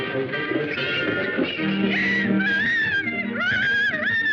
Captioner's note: rooster crowing